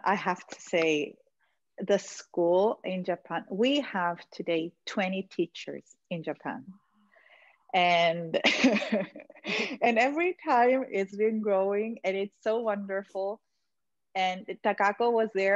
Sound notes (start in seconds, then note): 9.3 all laughing